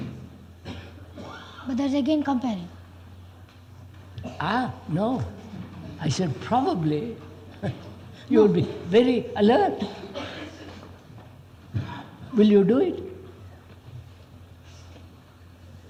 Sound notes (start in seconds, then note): 5.2 laughs